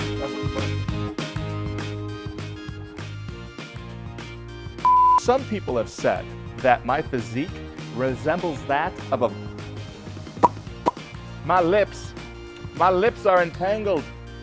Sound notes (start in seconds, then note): 4.8 test card beeps; 10.4 lips smack